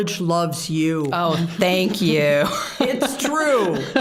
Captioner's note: laughing